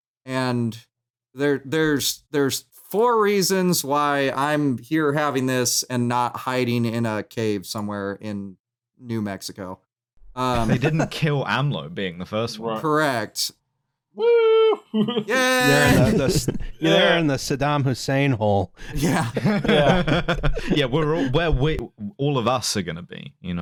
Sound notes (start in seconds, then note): 10.5 laughs; 18.9 laughs